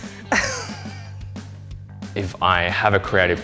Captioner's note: laughs